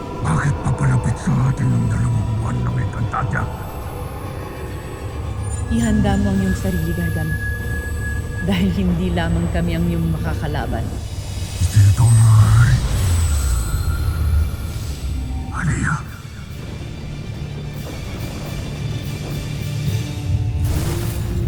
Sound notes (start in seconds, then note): 13.6 ethereal whoosh-crackle